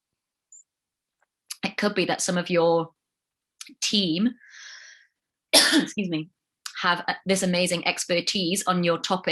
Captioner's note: coughs- excuse me